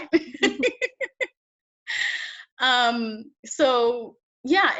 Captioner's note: laughs